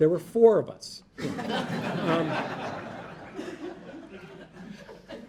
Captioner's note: audience laughing